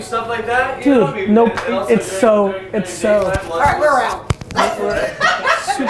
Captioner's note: laughs